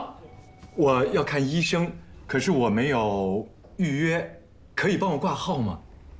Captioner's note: Jian speaking in Mandarin